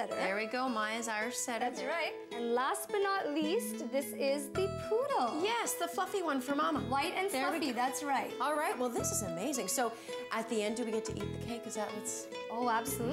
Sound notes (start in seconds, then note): none